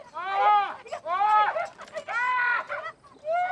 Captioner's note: both crying out; man screaming